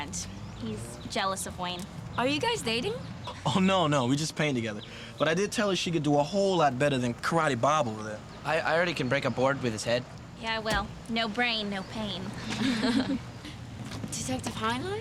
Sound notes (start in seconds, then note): 12.4 laughter